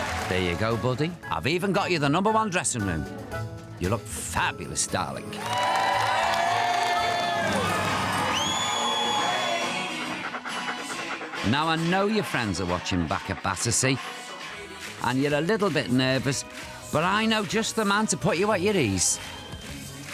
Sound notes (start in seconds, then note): 5.3 cheers, applause